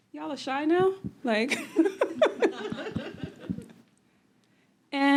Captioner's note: laughter